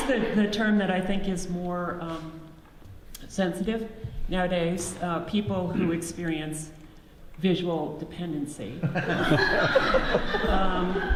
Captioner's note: audience laughs